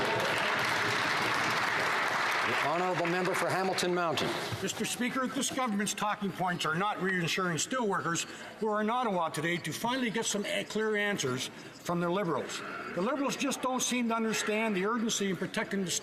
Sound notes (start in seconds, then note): 2.7 some Applause